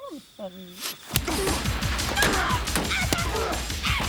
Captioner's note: wolf barking; suspenseful music; Graham grunts; both grunting